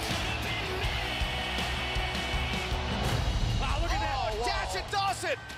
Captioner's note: crowd cheering